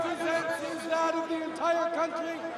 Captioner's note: applause